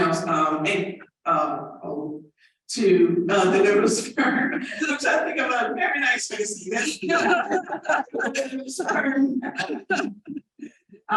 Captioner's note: laughter and overlapping chatter